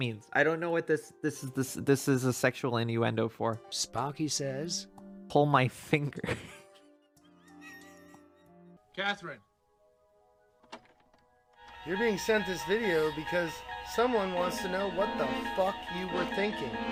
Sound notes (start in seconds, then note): 6.1 laughter